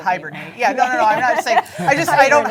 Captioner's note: laughing